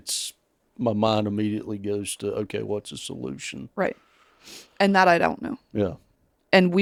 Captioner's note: sniffles